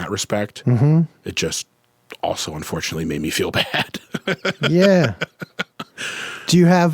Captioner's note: laughs